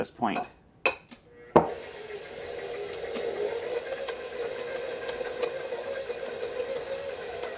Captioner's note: mixer whirring